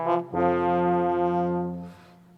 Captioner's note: none